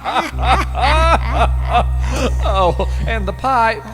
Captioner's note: laughter